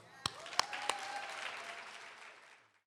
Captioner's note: applause